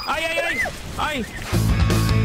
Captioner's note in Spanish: gemido extraño